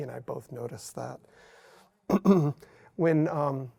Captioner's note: clears throat